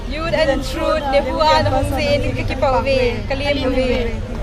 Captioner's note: in Shilong Language Kashi!!